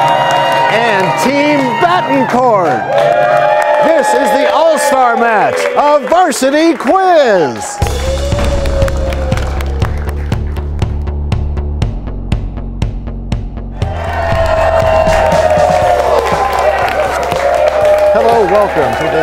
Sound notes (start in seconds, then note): 0.2 cheers and applause; 4.1 cheers and applause; 8.2 crashing sound